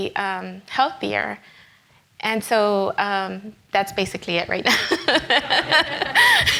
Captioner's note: laughs